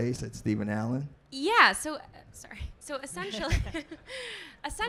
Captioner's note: laughing